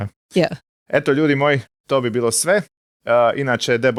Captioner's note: in Croatian